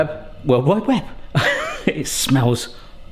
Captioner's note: laughs